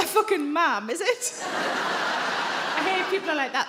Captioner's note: audience laughing